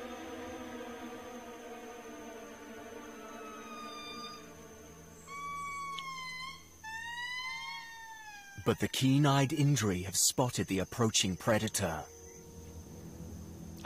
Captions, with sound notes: But the keen-eyed indri have spotted the approaching predator and sound the alarm. (lemurs howling)